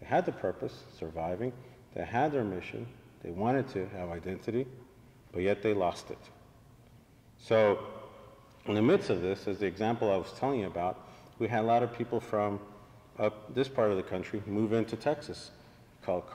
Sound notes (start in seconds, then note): none